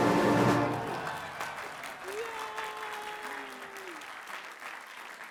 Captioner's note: clapping